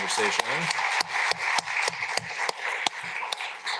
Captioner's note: applause